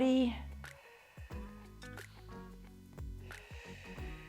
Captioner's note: exhales